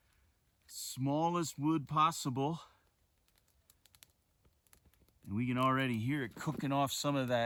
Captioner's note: fire crackling